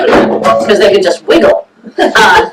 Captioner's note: laughter